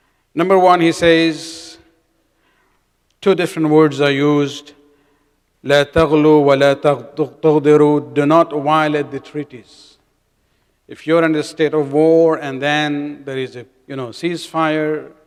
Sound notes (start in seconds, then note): 2.8 arabic